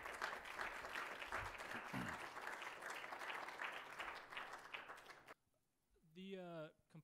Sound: applause

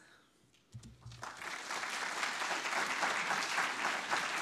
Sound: audience clapping

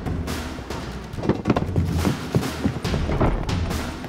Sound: footsteps receding

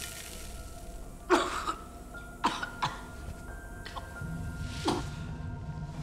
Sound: flesh sizzles; coughing, gagging

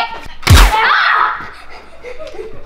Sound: yelling; heavy breathing

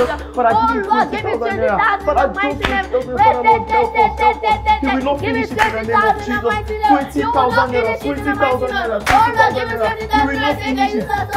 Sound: and they continue praying

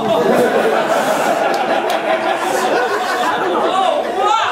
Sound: Scarecrow laughing; audience laughing

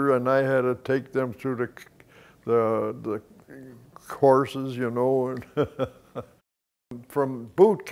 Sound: chuckles

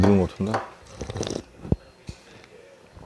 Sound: sip

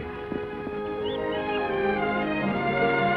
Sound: swan whistles

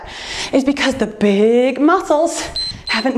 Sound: timer beeps

